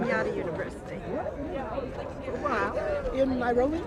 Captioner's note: indistinct chatter